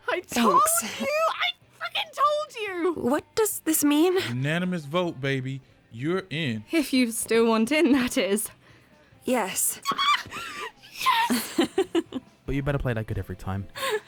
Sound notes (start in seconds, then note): 9.6 shrieks; 9.8 giggles